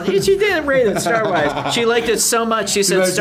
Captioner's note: Josh laughs